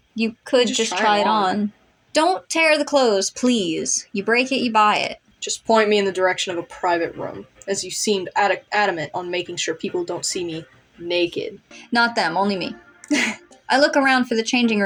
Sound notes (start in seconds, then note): 13.0 chuckle